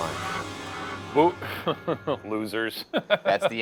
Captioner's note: chuckles